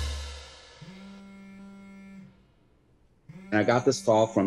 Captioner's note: phone vibrating